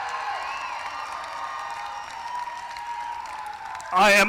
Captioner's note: applause; cheering